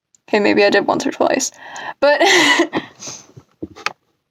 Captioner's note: laugh